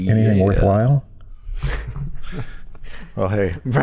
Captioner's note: chuckle